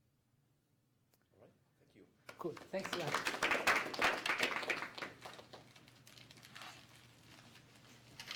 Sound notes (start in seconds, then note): 2.3 applause